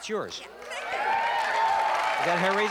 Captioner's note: applause